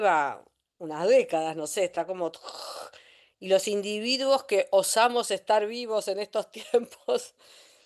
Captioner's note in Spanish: resoplido